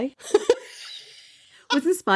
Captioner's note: laughing